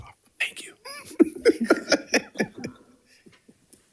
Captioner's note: laughs